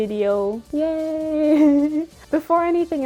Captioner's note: small laugh